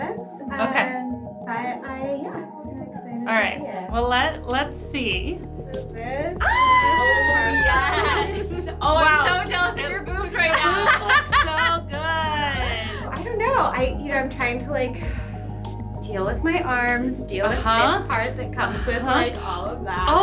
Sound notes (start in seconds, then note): 6.4 screaming; 10.4 laughs